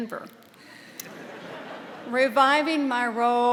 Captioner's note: audience laughing